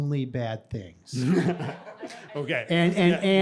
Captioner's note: audience laughing